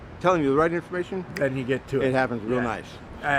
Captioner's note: fingers snapping